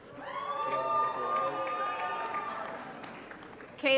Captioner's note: applause & Cheering